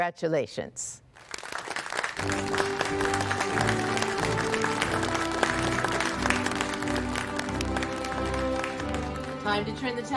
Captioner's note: applause